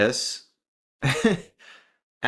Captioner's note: laugh